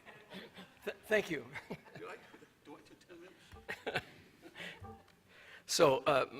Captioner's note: laughter